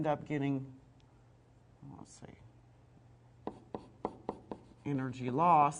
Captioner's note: sound of writing on board